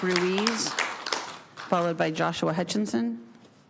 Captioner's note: applause